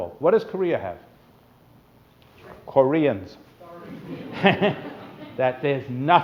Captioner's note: laughter